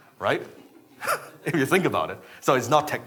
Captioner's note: chuckles